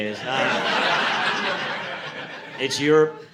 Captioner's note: audience laughing